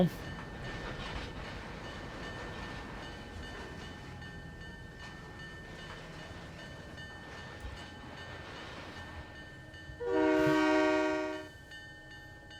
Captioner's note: train whistle